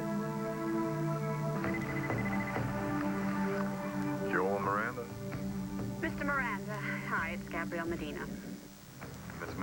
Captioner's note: phone rings